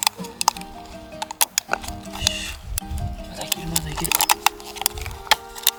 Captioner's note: laughs